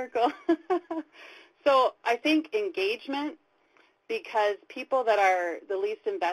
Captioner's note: laughs